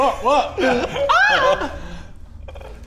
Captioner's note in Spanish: Grito femenino